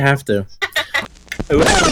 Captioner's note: laughs